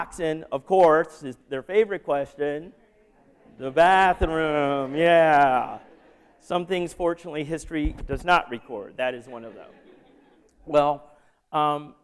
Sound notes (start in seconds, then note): 4.6 laughter; 9.1 laughter